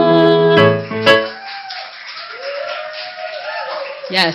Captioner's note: applause